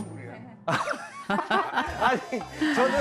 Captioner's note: bursting into laughter